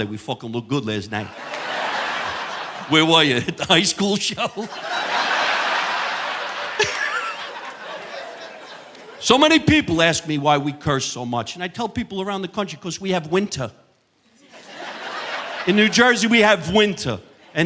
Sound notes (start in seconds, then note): 2.1 audience laughing; 5.1 audience laughing; 5.1 chuckles; 14.4 audience laughing